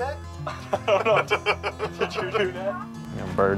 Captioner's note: lalaugughthterer